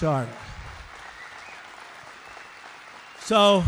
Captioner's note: applause